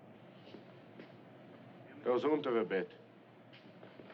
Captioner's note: German